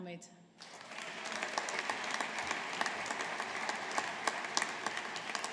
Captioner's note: audience applauding